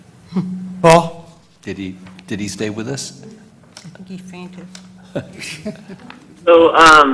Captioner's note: laugh